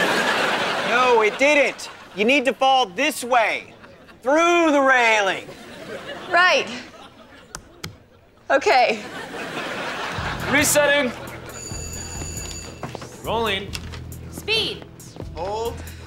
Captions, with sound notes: No, it didn't. You need to fall this way, through the railing. Right. Okay. Resetting. [bell ringing] Rolling. - Speed. - Hold.